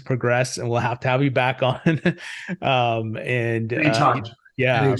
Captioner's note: chuckles